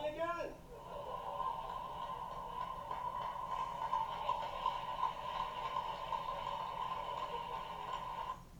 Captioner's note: laughter & more applause